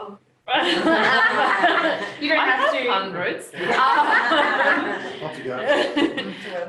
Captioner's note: laughter